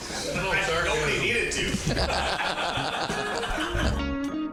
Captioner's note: all laughing; upbeat jazzy music